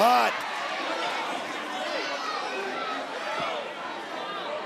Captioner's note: audience cheering